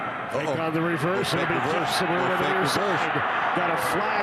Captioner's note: indistinct announcers chatter